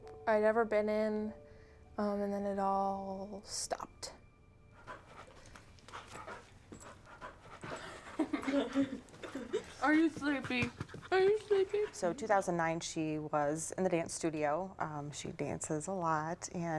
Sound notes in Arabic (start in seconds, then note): 7.1 يضحك